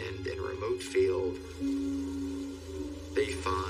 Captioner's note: bees buzzing